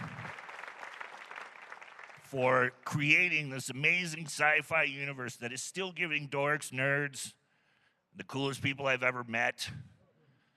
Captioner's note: applause